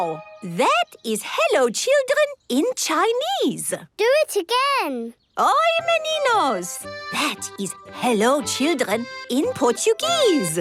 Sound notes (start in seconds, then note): 0.0 speaking Chinese; 5.0 speaking Portuguese